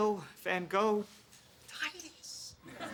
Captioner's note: whispers